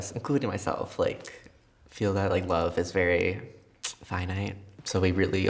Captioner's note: tsks